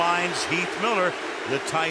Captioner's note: booing